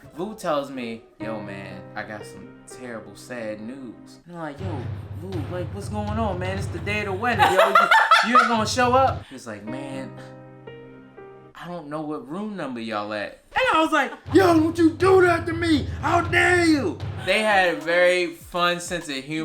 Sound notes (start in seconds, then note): 7.2 laughs